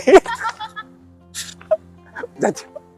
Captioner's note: laughter